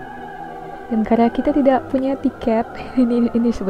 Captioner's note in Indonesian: hiks